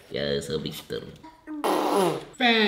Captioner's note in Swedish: Pruttljud